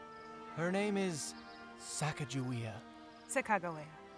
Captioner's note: pronounces differently